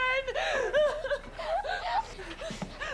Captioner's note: sobbing